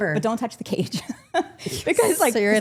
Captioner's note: laughs